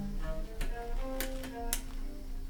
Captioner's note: lamp clicks